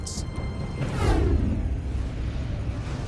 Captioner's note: deep rumble